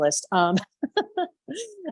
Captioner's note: chuckles